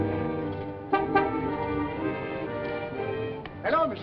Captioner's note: honks